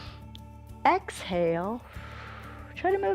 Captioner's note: inhales; exhales